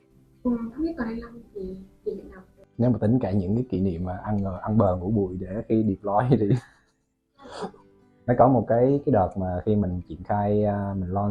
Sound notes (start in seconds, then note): 6.1 laugh